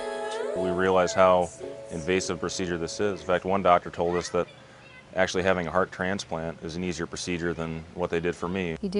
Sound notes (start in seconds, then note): 0.8 voiceover